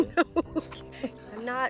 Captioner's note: laughing